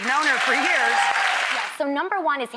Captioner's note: audience applauds